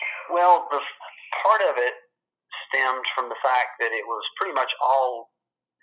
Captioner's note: on phone